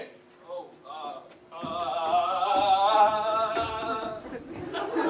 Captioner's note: panicked noises